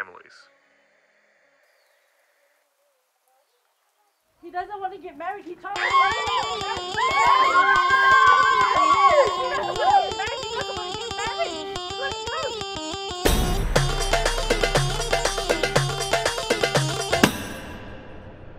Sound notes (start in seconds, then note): 7.3 screaming